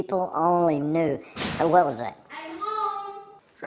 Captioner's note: banging